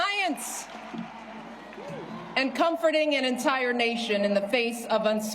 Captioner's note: cheers and applause